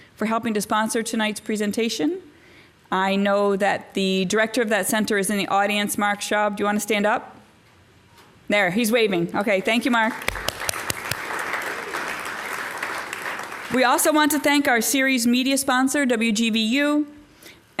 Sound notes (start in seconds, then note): 12.4 applause